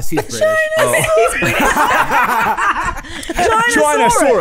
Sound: laughing

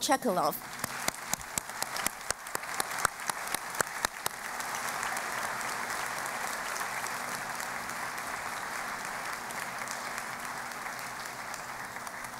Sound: applause

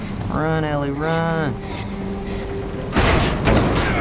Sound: Ellie pants

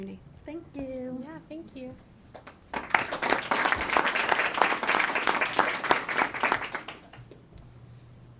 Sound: applause

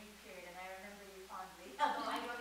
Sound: chuckles

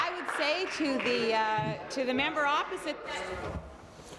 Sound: applause

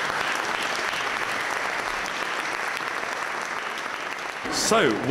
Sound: applause

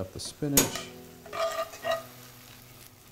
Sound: scraping; oil sizzles

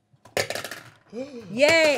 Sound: marbles clattering

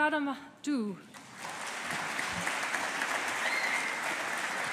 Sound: audience applauding

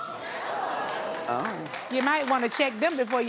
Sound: audience cheers

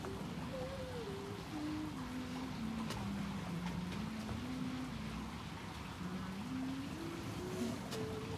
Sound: shower running distsntly

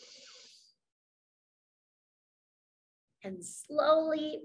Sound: inhales

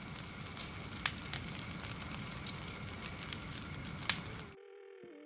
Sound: fire crackling

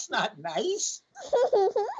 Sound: laughter

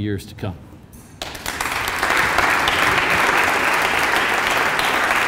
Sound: applause

